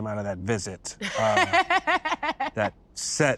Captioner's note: laughs